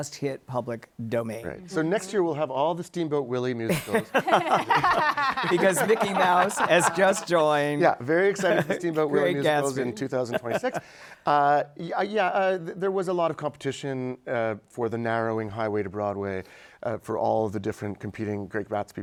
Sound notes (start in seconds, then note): 5.4 laughter